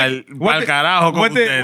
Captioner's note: speaking Spanish